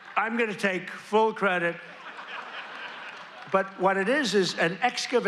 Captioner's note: laughter